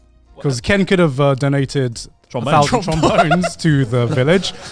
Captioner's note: chuckling